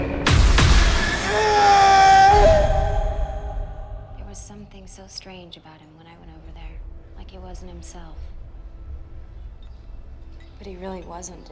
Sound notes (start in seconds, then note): 1.1 Stone screams